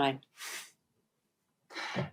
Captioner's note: chuckles